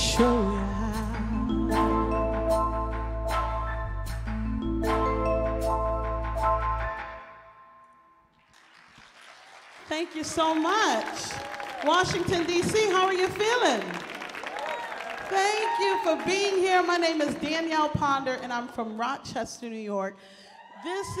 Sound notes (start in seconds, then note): 3.6 ethereal music; 8.9 audience applauds; 13.6 audience cheers